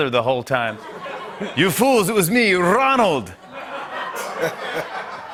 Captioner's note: changes accent; laughter